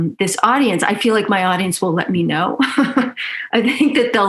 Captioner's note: laughs